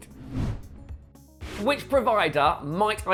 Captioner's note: screen wipe whooshes